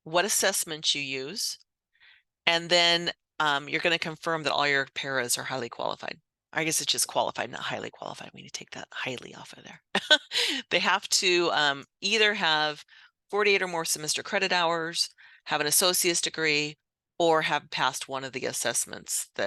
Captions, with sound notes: what assessments you use. And then you're gonna confirm that all your paras are highly qualified. I guess it's just qualified, not highly qualified. We need take that highly off of there. (chuckles) They have to either have 48 or more semester credit hours, have an associate's degree, or have passed one of the assessments